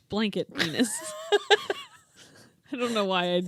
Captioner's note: laughing